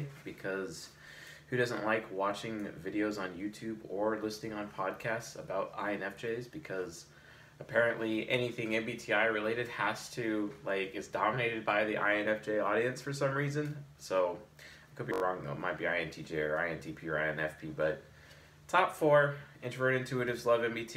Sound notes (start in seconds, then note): none